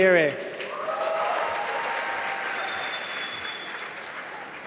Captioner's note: applause